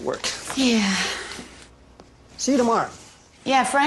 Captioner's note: Въздишания